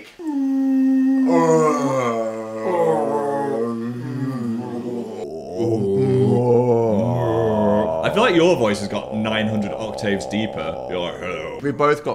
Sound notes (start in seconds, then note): 0.1 moaning deeply; 5.3 moaning deeply